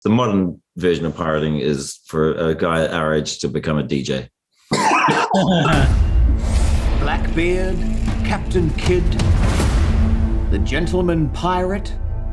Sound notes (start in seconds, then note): 4.8 laughter